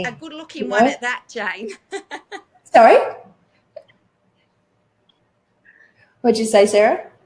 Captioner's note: laughs